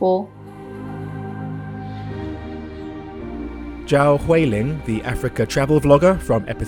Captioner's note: voiceover